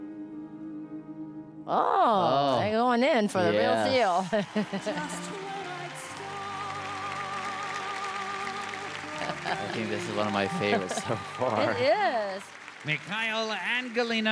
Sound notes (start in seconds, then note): 3.7 applause